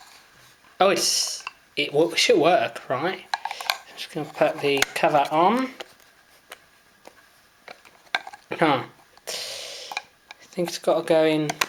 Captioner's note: clicks from failed attempts